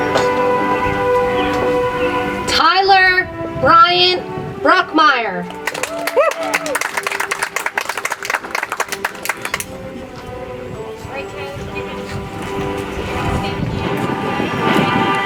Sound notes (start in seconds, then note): 5.5 audience applauds; 10.5 soft music